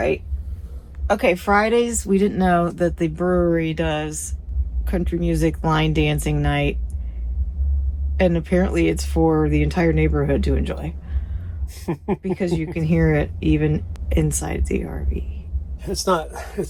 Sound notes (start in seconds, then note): 11.7 laughing